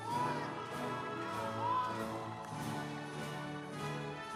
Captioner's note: audience applauds